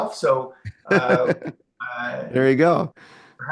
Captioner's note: laughs